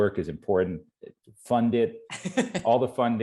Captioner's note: laughing